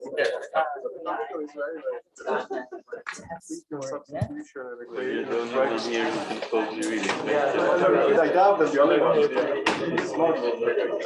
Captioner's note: background chatter